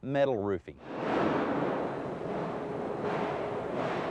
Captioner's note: machine rumbles